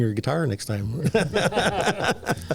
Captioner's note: laughter